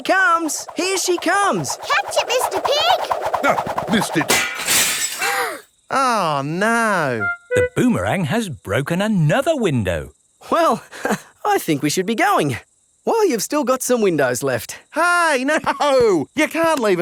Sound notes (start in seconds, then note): 4.3 shatters; 15.4 laughing